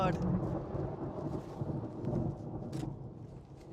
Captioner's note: thunder